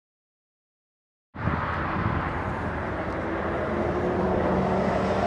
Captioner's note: cars passing